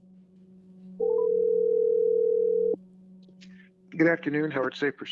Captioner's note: phone line ringing